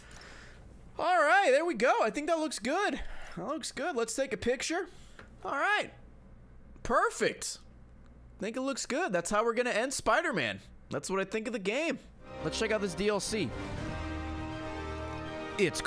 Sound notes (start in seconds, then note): none